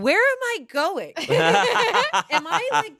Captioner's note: everyone laughs